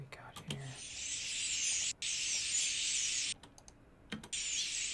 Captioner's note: birds screech